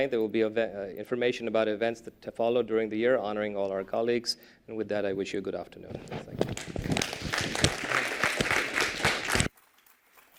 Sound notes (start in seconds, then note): 6.4 applause